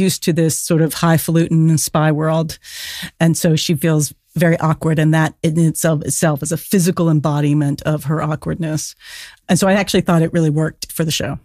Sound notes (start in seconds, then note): none